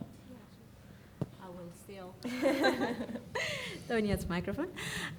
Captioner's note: group laughing